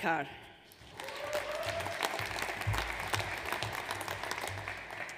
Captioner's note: audience applauds